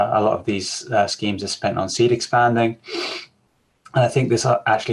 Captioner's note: sniffs